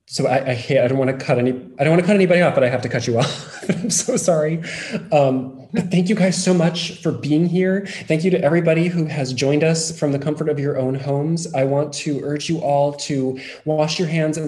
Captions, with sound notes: So I, I don't want to cut any, I don't want to cut anybody off but I have to cut you off, (laughs) I'm so sorry. Thank you guys so much for being here. Thank you to everybody who has joined us from the comfort of your own homes. I want to urge you all to wash your hands